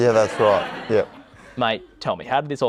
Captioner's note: laughter